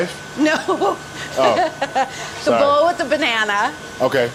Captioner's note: laughs